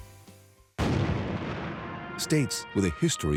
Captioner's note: cannon booms